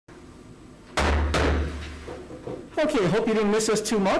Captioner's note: gavel slamming